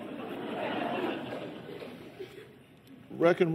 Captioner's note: laughter